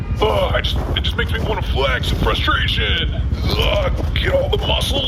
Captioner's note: laughing; grunts and stretches